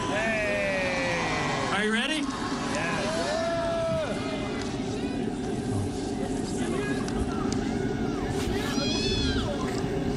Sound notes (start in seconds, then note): 4.0 cheers and applause